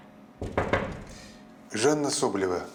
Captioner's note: knocks